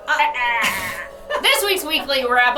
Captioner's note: laughing